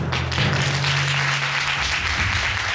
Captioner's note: audience applauds